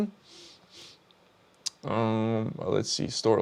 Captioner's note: sniffs